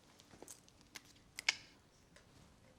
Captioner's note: clicks tongue